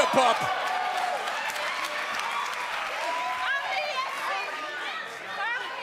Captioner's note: crowd cheering